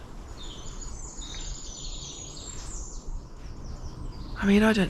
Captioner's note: birdsong